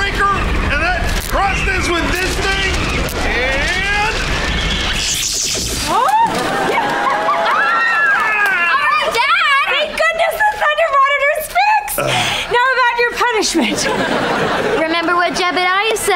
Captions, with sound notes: and then crush this with this thing and... [cheering] Alright, Dad! Thank goodness the Thunder Monitor's fixed. Now about your punishment. Remember what Jebediah said,